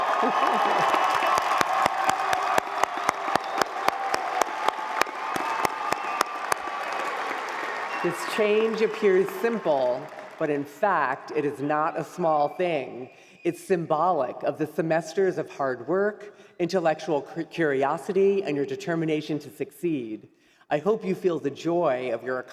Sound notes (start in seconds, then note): 2.3 applause; 6.2 cheering